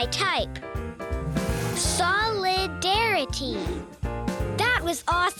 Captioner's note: whoosing